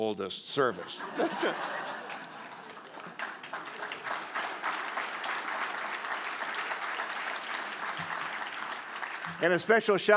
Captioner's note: laughter and Applause